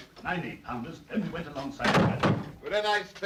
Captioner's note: door closes